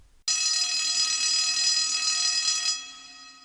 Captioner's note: bell rings